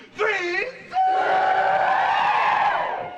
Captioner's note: crowd